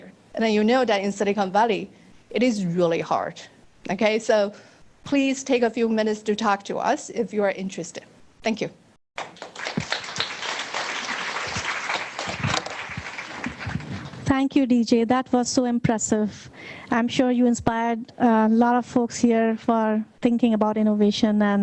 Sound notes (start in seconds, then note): 9.2 audience applauding